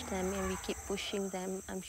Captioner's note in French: elephant noise